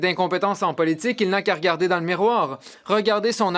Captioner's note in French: voix de l'interprète